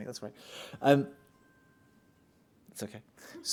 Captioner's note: phone chimes